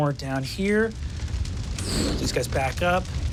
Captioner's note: fire crackling and whooshing